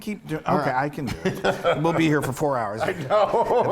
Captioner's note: laugh